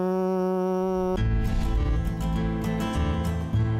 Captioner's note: imitates train horn